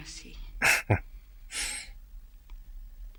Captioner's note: chuckling